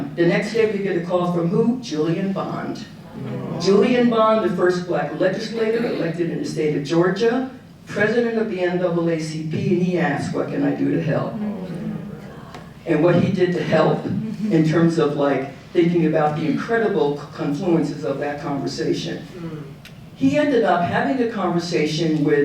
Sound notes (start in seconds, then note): 3.1 audience oohing; 11.6 audience oohing